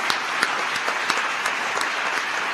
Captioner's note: applause